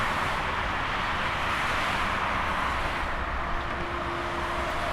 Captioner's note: traffic noise